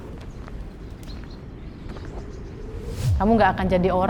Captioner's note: wind blowing